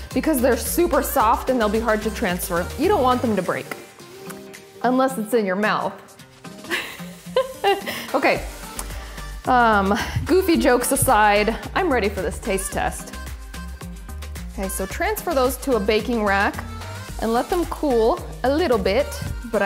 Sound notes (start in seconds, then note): 6.6 giggling